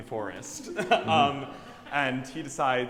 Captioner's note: laughing